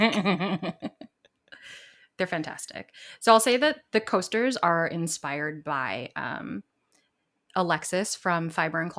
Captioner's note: laughs